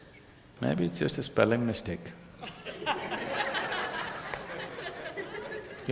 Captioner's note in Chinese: 聽眾笑聲